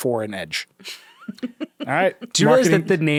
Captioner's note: chuckling